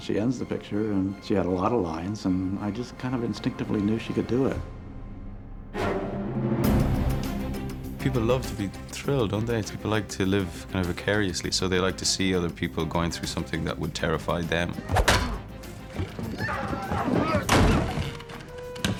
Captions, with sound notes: She had a lot of lines, and I instinctively knew she could do it. People love to be thrilled, they like to live vicariously. They like to see people going through something that would terrify them. - [grunting] - [screaming]